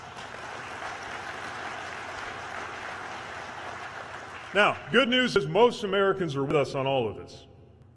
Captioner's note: applause